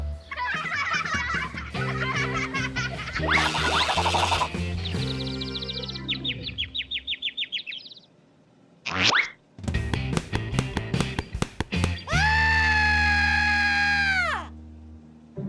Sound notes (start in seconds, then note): 0.3 laughing; 4.7 birds tweeting